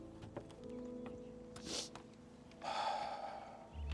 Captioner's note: exhales deeply